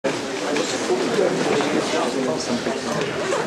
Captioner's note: indistinct conversation